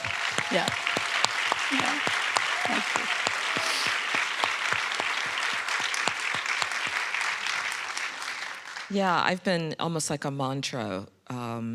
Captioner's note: audience applauding